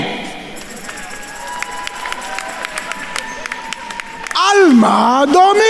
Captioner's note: attendees cheering and applauding